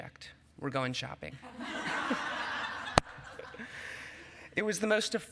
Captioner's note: laughter